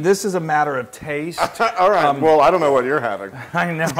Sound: laugh

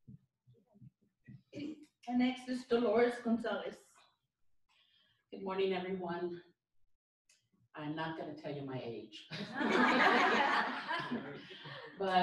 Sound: laughter

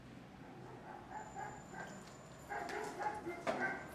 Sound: dog barking

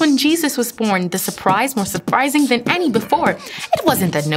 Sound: drum beatboxing

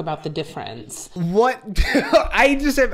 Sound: laughs

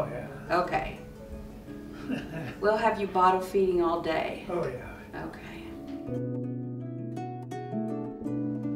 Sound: laughs

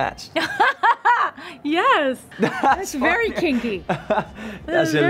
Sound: laughs

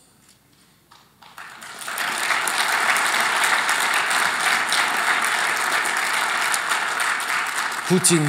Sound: applause

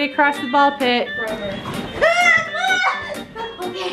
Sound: screams

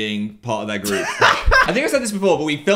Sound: laughs

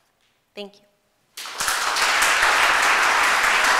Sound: applause

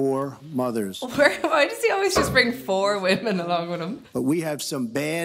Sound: laughs

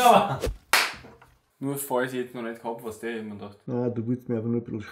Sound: claps; claps again

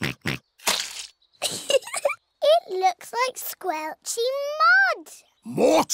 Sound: oinks; giggles

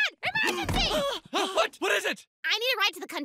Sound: gasping

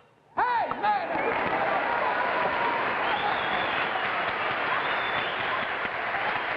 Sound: audience cheering and applauding

